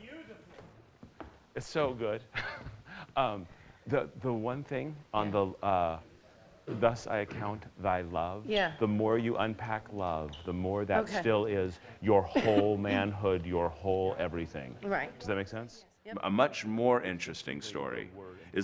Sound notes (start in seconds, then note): 2.3 chuckles